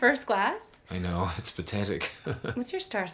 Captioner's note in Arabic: يضحك